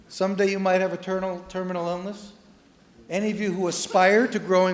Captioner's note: none